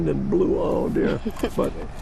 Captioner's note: chuckling